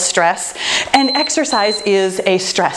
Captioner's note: timer beeping